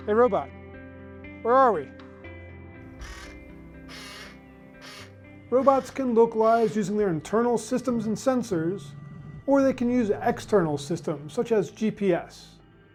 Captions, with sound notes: Hey, robot. Where are we? (robot whirring) Robots can localize using their internal systems and sensors or they can use a external system such as GPS.